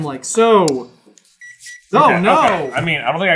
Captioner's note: gentle beeping